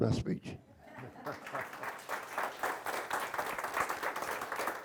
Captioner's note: audience applauds